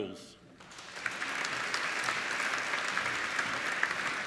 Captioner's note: applauding